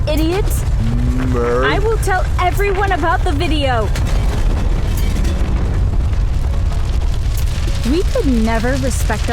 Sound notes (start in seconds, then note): 3.3 another crashing sound